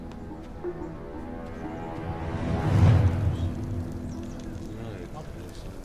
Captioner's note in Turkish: Fısıltı sesleri